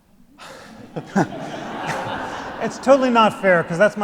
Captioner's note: all laugh